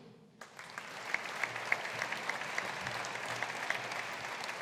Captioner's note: audience applauding